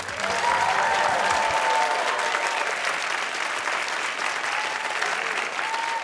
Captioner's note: cheers and applause